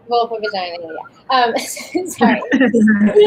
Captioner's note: laughs